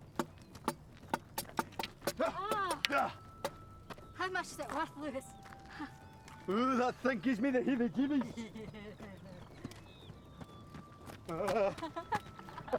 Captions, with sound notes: - How much is it worth, Lewis? - Ooh, that thing gives me the heebie-jeebies. (woman laughs) (all laugh)